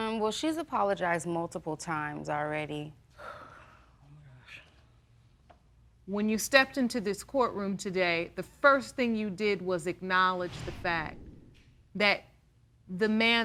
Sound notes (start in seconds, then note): 3.2 sighs